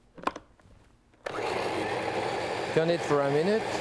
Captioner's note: blender whirring